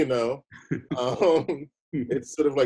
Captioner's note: chuckles; laughing